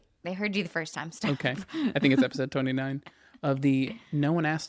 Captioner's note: laughs